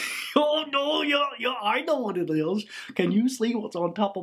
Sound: laughs

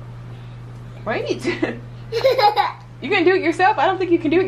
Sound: laughter

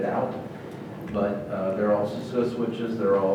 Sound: speaking off microphone

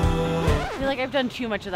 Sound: record scratching

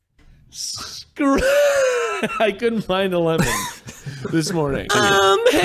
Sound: laughs

